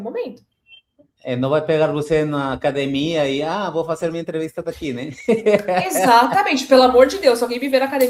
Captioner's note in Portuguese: risadas